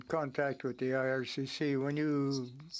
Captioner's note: speaking French